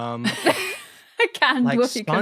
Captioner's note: wheeze